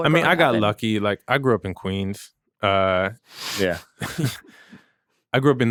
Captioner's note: chuckling